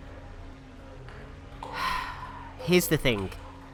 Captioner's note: big sigh